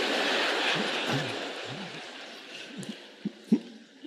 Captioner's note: audience laughing